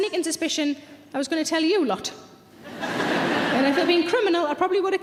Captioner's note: audience laughing